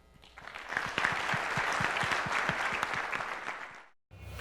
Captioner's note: audience applause